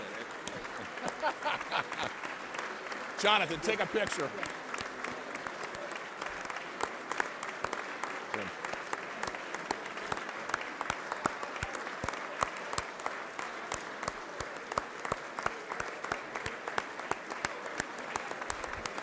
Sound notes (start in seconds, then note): 0.5 laughter; 6.6 applause